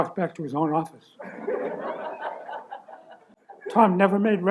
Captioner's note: laughter